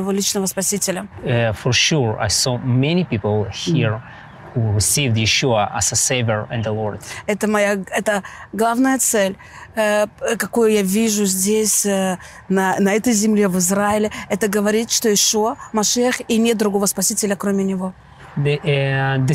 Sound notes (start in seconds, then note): 7.5 speaking in foreign language